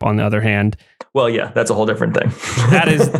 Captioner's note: laughs